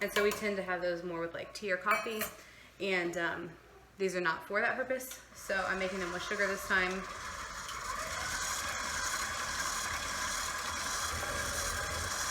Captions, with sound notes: And so we tend to have those more with like tea or coffee, and these are not for that purpose. So I'm making them with sugar this time. (mixer buzzing)